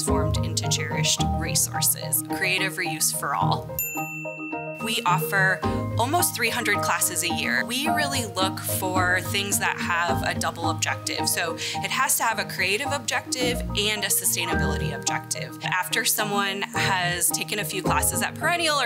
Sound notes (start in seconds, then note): 3.3 bright orchestral music; 3.8 animation dings